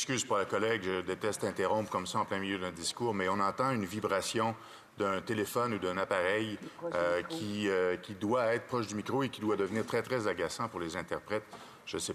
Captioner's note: speaking French